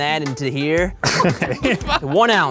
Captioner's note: all laugh